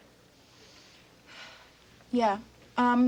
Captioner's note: Marcia sighs